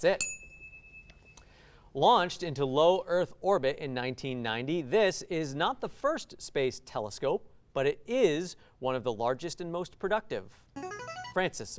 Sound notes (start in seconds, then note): 0.1 ding sound; 10.8 ring-in sound